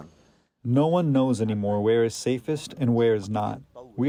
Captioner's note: through translator